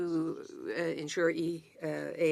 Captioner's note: speaking French